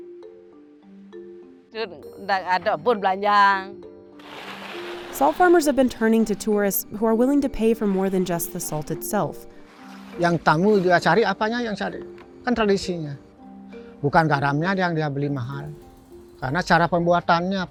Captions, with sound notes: (speaking foreign language) Salt farmers have been turning to tourists who are willing to pay for more than just the salt itself. (speaking foreign language)